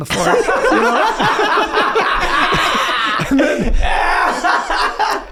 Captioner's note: laugh